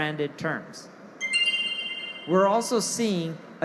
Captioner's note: machine chimes